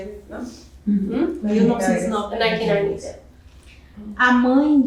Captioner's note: speaking portuguese